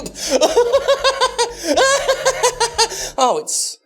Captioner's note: laughs